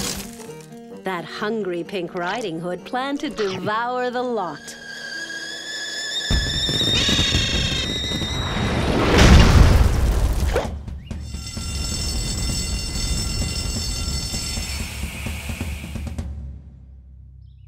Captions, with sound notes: THAT HUNGRY PINK RIDING HOOD PLANNED TO DEVOUR THE LOT. (kettle whistles) (alarm ringing)